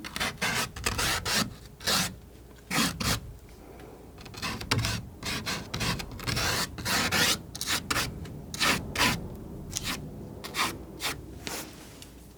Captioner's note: scratching